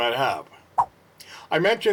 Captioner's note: swipe Sound